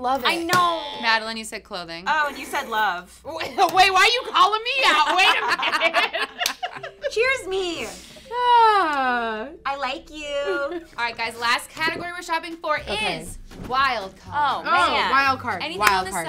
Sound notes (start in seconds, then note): 4.9 laughs; 5.0 everyone laughing